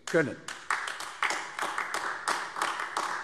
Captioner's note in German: Beifall AfD